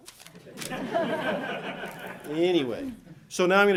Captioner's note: audience laughing